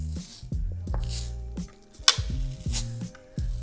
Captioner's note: decal ripping